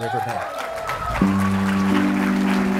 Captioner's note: applause